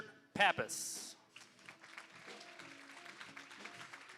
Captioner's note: applause